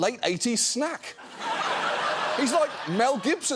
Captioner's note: audience laughing